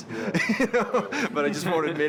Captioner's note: laughs